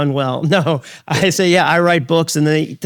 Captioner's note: chuckles